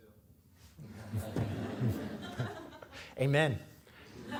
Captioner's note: audience laughing